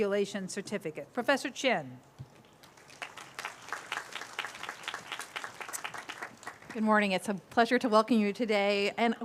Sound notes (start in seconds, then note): 2.6 applause